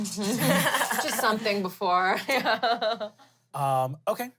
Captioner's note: everyone laughs; laughs